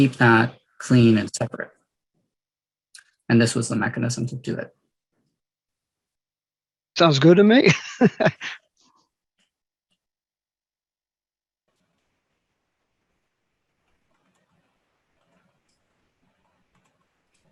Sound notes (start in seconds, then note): 7.7 laughs